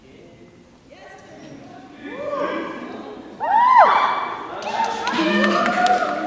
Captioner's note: cheering